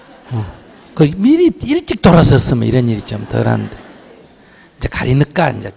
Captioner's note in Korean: 청중 웃음